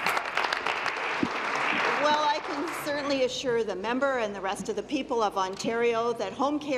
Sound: applause

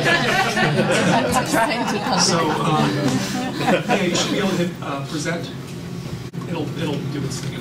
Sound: laughter

